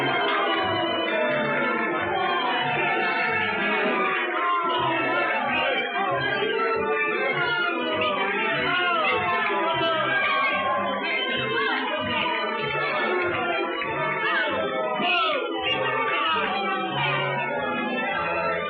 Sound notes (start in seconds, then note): 6.3 booing, shouting; 9.0 woman shouting in Spanish